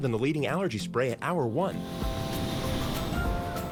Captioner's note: deep inhale